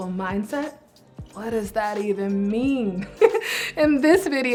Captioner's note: laughs